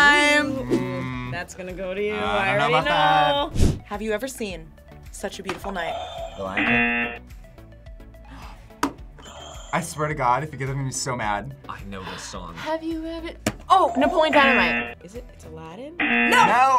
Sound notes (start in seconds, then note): 6.5 buzzer rings; 6.6 buzzer; 8.1 buzzer rings; 8.2 gasps; 11.8 gasps; 14.3 buzzer